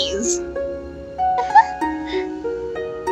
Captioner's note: giggles